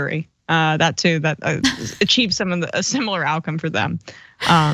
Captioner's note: laugh